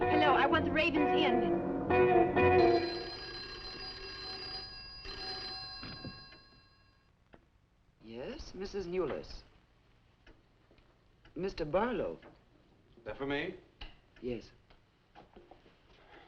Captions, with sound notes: Hello, I want the Raven's Inn. (phone ringing) - Yes, Mrs. Newless. (clock ticking) Mr. Barlow? - That for me? - Yes.